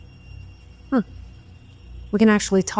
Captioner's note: Tiffany scoffs